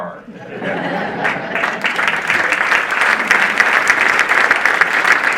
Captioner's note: audience laughing and applauding